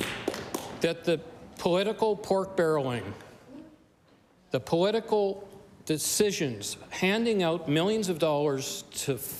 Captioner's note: applause